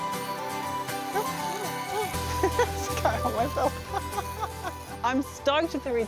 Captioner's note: laughs